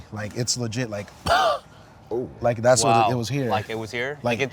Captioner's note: poofing sound